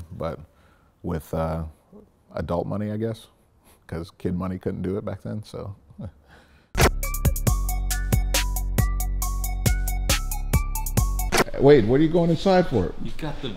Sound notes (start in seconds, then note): 3.9 laughs; 6.8 rap music